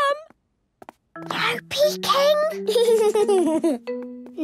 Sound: whispering; Danny giggling

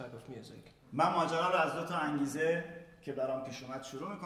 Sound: speaking in farsi

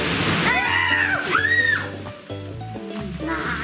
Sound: shrieking

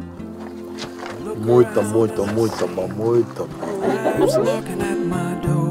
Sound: Mooji speaks Portuguese

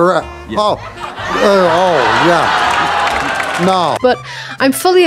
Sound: audience laughter

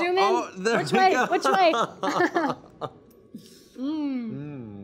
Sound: laughter

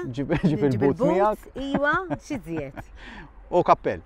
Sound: laughs

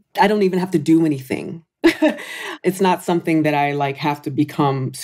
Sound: laughs

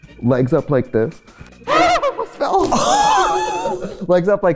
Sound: laughter; gasps

